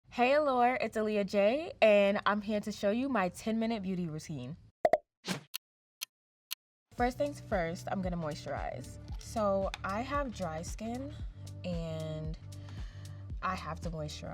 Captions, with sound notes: - Hey, allure, it's Alia J and I'm here to show you my 10 minute beauty routine. [clock ticking] First things first, I'm gonna moisturize. So, I have dry skin and I have to moisturize.